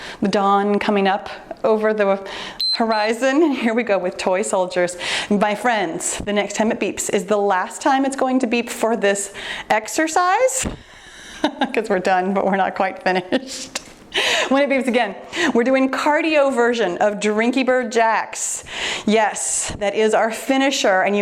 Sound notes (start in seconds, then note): 2.6 timer beeps; 11.1 laughs